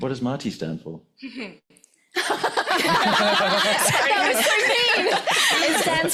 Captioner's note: laughter